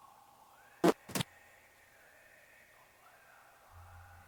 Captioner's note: static crackling